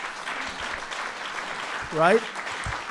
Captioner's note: applause